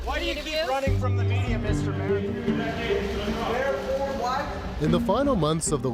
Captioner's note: reporters shouting